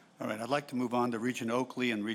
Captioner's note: voiceover